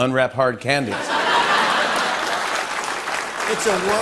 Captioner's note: laughter